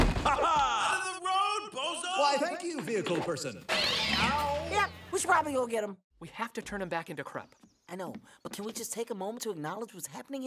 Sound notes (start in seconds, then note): 3.8 crash, cat meows